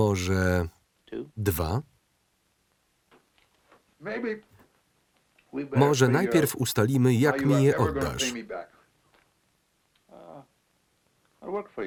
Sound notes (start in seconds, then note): 7.2 laughs